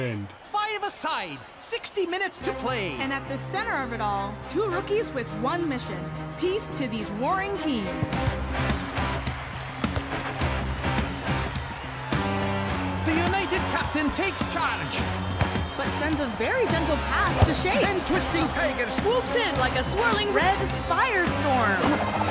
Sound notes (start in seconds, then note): 8.1 crowd cheering; 10.7 intense music